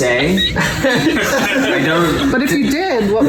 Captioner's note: laughter